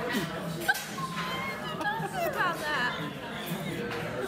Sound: laughs

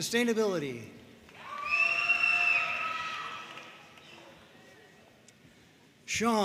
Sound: audience cheering and applauding

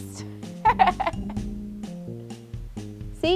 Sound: laughing

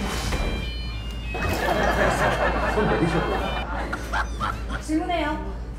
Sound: laughter

